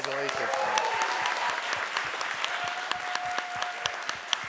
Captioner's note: audience applauds